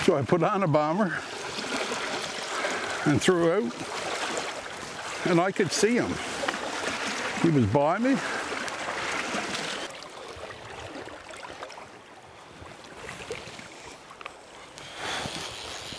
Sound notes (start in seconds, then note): 10.5 water whirling